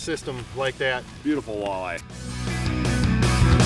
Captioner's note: voiceover; rock music